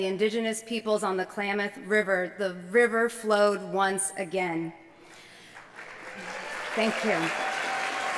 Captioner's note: applause